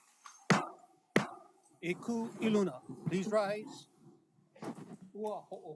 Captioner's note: gavel bangs twice